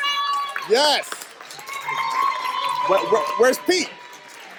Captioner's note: staff cheers